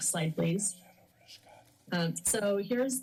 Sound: background chatter

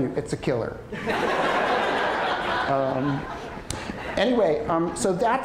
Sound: audience laughter

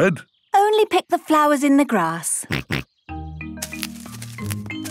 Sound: snorting

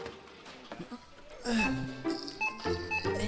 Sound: Carl grunting

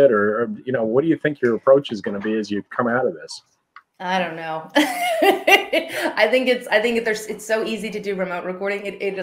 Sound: laughing

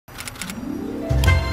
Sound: keys clicking; whimsical music

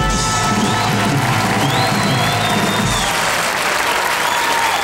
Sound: audience applause

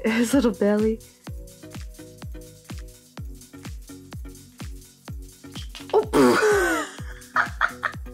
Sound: laughs

